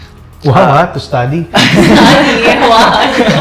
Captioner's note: laughs